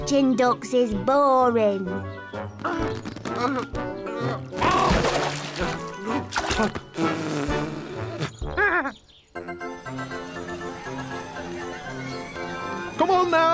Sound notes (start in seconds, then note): 4.6 splash; 8.5 chuckles; 9.3 fairground music